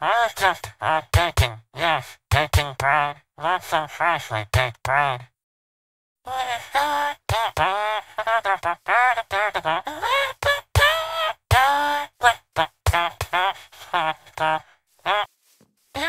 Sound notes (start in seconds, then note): 9.6 Laughing like squidward